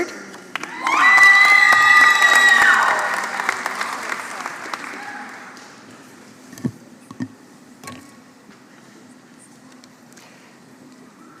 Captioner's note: applause